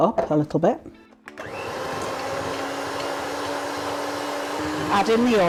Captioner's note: hand mixer whirring